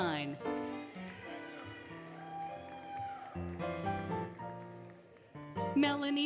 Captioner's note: applause, Cheering, Music